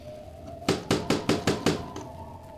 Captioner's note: knocking